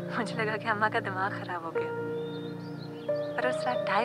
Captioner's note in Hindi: none